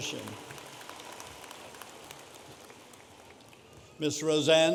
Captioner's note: audience applauding